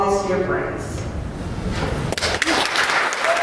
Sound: cheers and applause

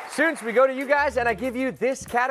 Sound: cheers and applause

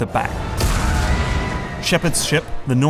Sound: explosion

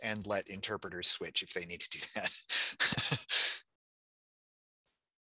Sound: chuckling

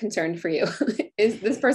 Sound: chuckles

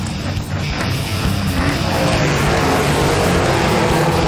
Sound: engines rev

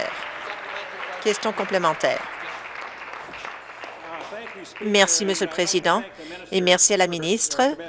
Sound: applause

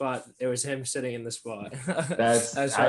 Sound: laughing

